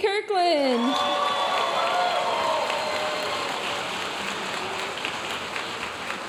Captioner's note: audience cheering and applauding